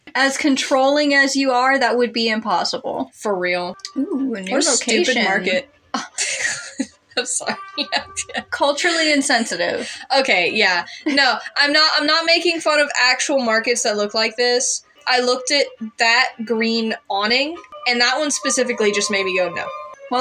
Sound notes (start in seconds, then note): 6.0 laughing; 6.1 scoff; 10.9 chuckle